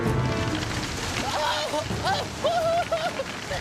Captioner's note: screaming